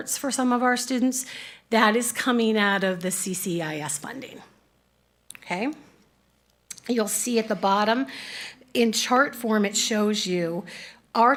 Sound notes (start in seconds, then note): none